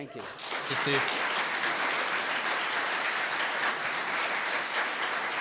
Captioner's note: audience clapping